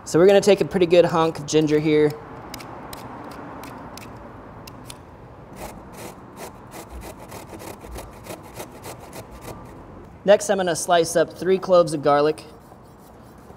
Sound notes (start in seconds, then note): 2.6 peeler slashes; 6.4 ginger scrapes